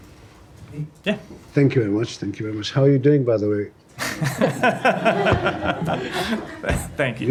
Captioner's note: laughter